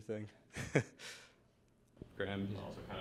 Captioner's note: chuckles